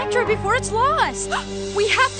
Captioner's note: gasp